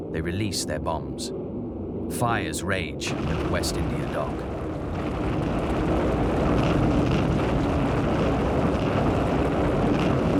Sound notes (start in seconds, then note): 5.0 bombs exploding